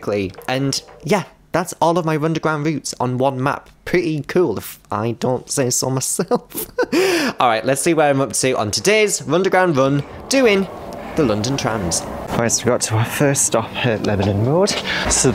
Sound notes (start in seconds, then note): 6.4 laughs